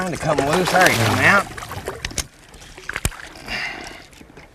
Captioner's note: splashing